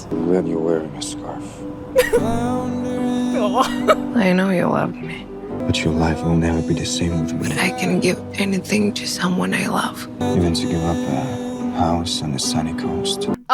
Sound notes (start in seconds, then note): 2.0 Emma giggles; 2.0 sentimental music